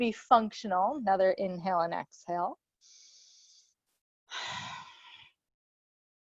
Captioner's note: breathes deeply